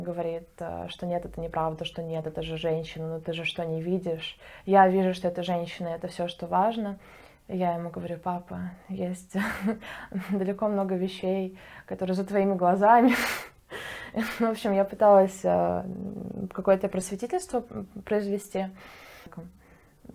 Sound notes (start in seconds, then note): 9.9 laughs